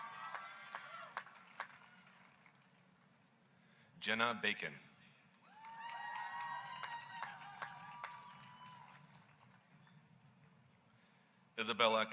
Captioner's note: applause